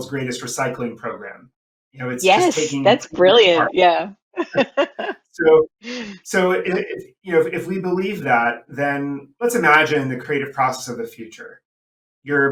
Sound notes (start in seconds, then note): 3.8 voice muffling; 4.4 laughing